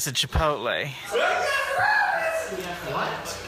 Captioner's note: in a high-pitched, excited yell